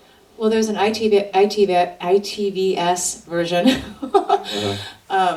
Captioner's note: laughs